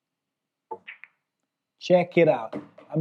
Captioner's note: ball clacks